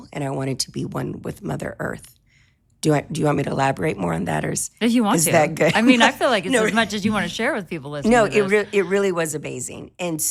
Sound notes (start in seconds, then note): 5.2 laughing